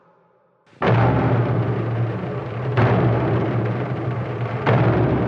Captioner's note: rhythmic gunfire